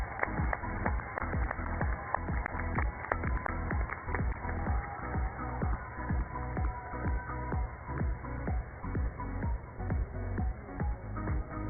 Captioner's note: cheers and applause